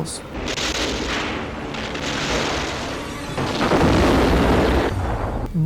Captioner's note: explosions booming